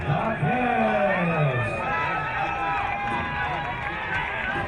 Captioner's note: crowd cheering